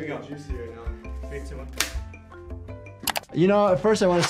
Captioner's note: rubber band snaps